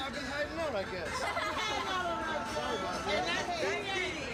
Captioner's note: laughter